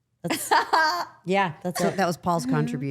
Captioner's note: Liv laughs